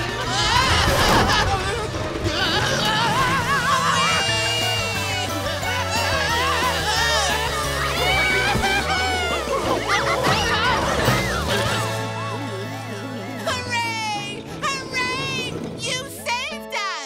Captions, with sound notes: Whoa! -Whoa! -Weee! [screaming] [yelling] Hooray, hooray! You saved us!